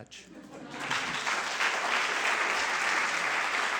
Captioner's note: laughter and applause